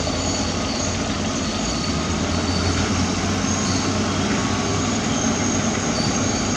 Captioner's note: excavator Engine Sound